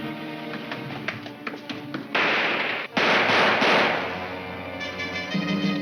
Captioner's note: gunshots crack; dramatic music